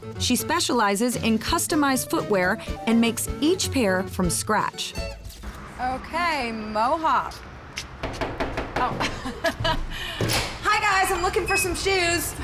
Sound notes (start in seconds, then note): 8.0 knocking; 8.9 laughs